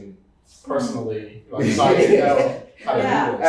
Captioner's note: laughs